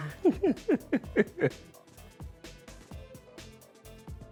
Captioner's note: laughing